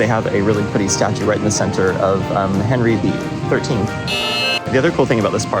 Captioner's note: buzzer